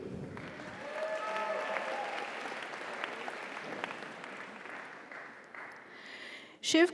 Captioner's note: audience applauds; audience cheers